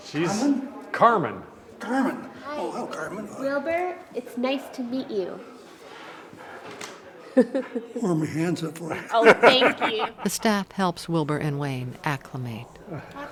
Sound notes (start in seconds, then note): 7.3 chuckles; 8.9 laughs